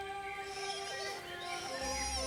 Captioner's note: squeaking